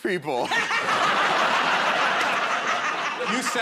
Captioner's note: laughter